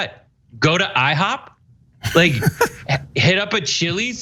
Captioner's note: laugh